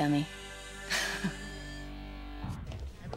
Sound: laughs

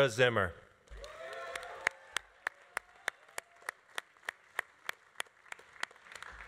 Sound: audience cheering; audience applauding

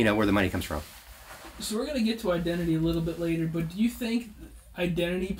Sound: none

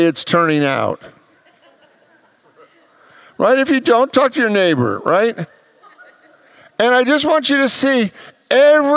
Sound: congregants laugh

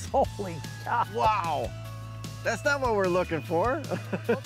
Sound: giggles

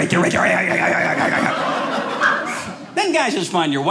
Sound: audience laughing

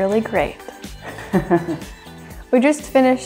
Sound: laughing

